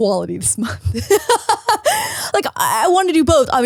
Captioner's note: laughs